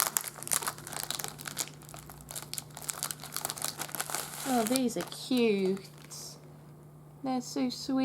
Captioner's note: rustling